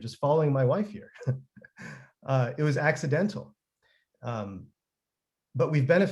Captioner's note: chuckles